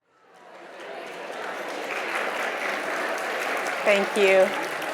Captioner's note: audience applauding